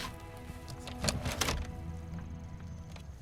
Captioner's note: clattering